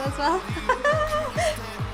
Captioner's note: laughs